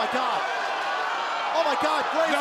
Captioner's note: crowd cheering